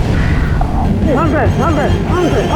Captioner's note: trainer chattering